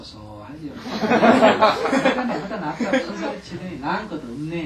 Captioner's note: audience laughter